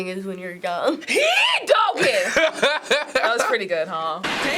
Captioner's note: exaggerated accent; cracking up